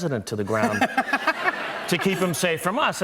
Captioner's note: laughter